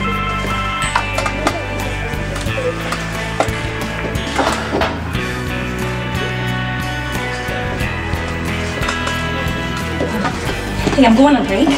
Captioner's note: cell phone rings